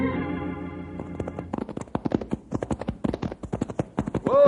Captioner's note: footsteps